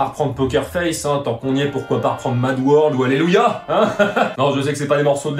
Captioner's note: crazy laugh